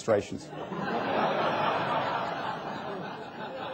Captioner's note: laughter